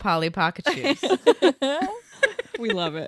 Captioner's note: everyone laughs